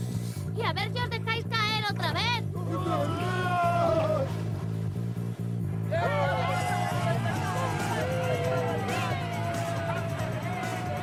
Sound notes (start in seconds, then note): 2.8 screams; 5.9 crowd cheering